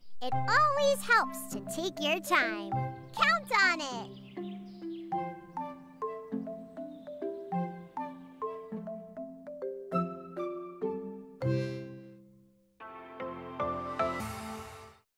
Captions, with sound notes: - It always helps to take your time. Count on it. (birds chirping) (playful music)